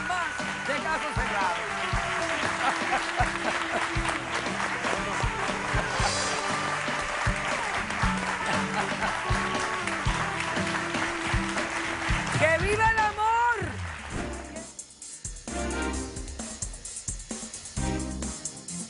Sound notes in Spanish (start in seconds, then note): 3.8 Aplausos